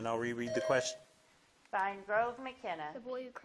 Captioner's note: buzzer blips